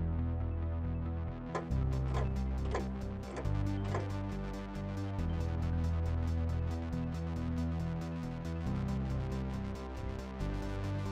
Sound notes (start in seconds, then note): 2.6 clock ticking; 6.8 soft electronic music continues